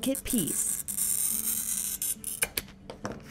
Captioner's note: blade scraping